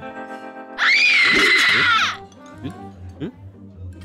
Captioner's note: screams